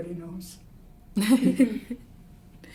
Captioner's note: both laugh